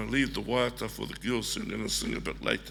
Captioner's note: speaks foreign language